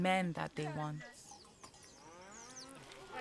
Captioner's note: distance cows moos; indistinct chatter